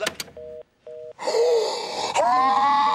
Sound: phone beeps; gasps; screaming

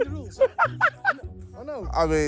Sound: laughing

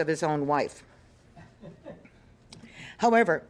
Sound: audience chuckling

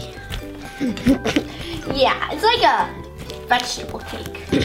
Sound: laughs

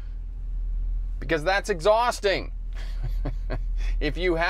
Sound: giggles

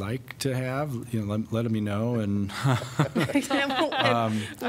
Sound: laughter

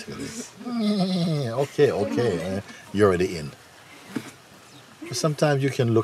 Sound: macht meckernde Geräusche

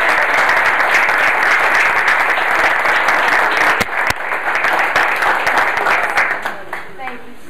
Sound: clapping

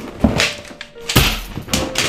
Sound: frame smashes

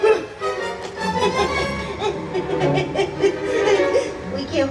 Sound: Mary laughs sheepishly

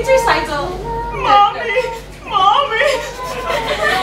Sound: sobbing

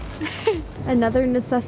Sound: laughs

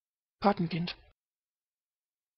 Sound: fast Pronunciation

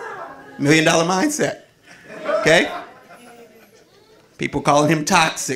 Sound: audience laughing

